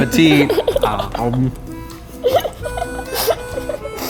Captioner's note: laughing